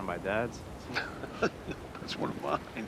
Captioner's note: chuckles